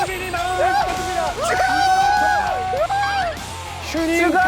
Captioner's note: hurray